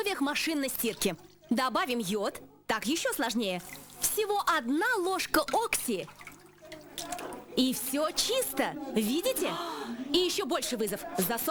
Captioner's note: sigh